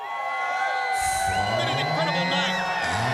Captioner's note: crowd cheering